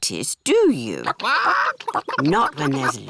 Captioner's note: chickens chatter